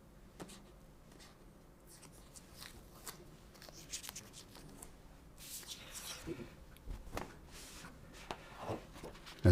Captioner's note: silence